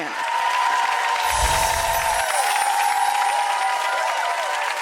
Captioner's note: audience cheering